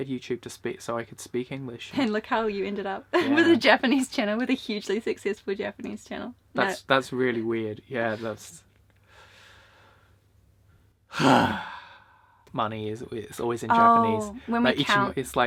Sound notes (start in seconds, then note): 11.1 sigh